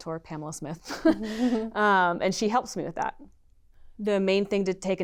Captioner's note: laughter